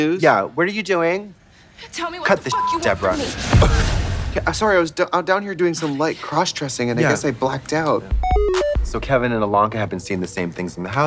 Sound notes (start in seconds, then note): 2.4 beep; 4.2 laughs; 8.1 bright electronic music